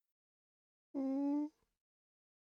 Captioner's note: nervous Noises